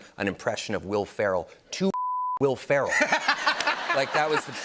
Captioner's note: laughter